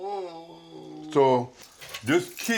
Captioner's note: resident groaning